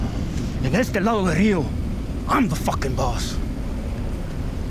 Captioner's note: speaks Spanish